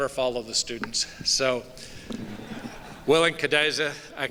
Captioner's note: soft laughter